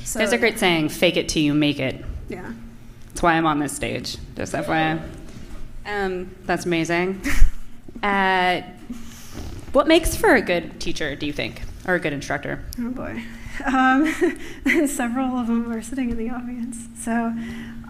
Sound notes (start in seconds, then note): 13.6 laughter